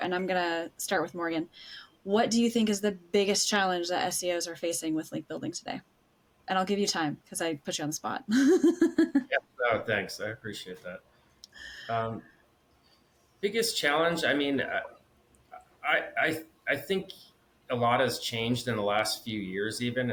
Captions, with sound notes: and I'm gonna start with Morgan, what do you think is the biggest challenge that SEOs are facing with link building today? And I'll give you time, because I put you on the spot. (laughs) - Yeah, thanks, I appreciate that. Biggest challenge, I mean, I think a lot has changed in the last few years even